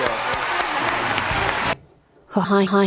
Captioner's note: audience erupts in cheers and applause